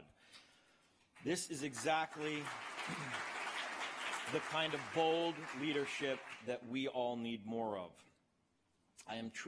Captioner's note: applause